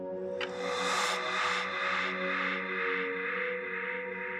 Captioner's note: air whooshing